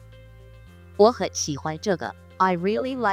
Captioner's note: person speaking in foreign language